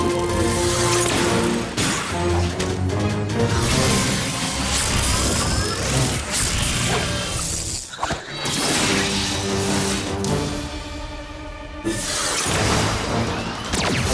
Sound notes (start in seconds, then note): 3.3 whoosh